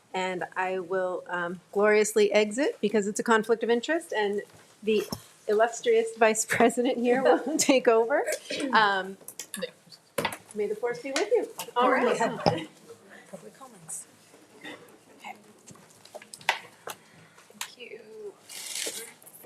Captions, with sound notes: and I will um gloriously exit because it's a conflict of interest and the illustrious Vice President here will take over. - May the force be with you. - All right. - (Murmuring) (Chairs Moving)